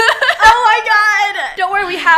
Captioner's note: laughs